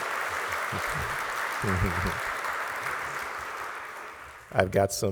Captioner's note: applause